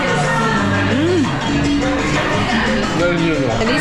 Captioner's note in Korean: 자동 돌고래 소리